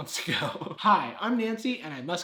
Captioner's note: laughs